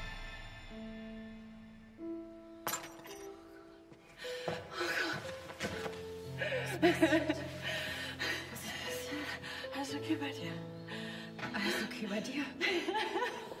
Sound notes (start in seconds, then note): 2.6 clink; 4.6 sobbing